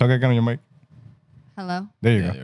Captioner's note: speaking In Foreign Language